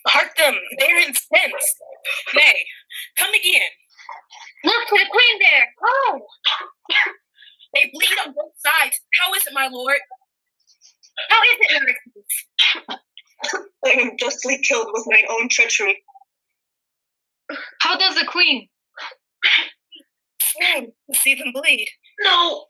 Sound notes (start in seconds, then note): 6.9 coughing